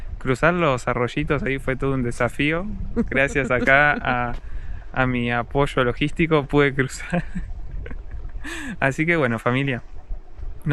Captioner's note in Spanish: risas